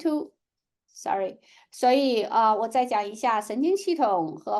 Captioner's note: speaking chinese